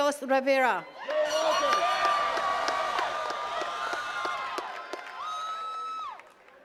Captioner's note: attendees cheering and clapping